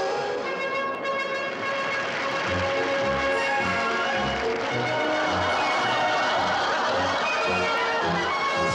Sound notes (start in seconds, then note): 0.8 audience applauds; 4.2 audience laughs